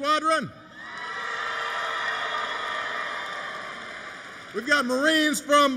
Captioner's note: applause